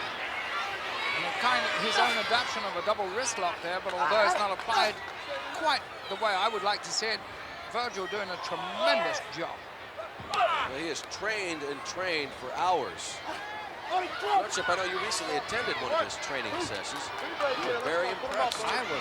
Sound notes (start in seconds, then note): 10.2 blows thudding; 13.1 wrestlers grunting